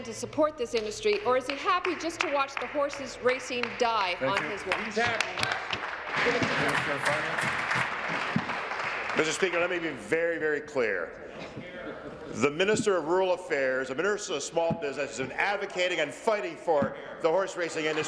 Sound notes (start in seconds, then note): 10.3 applause